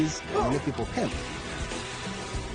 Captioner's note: actor grunts